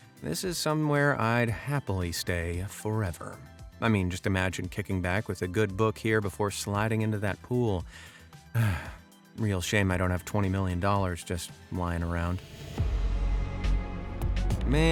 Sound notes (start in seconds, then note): 8.5 sighs; 12.6 light thoughtful music